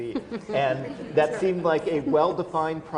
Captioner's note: laughter